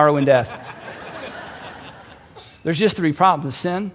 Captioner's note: crowd laughing